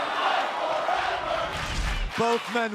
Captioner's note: fans chanting